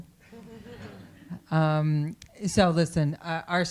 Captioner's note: audience laughing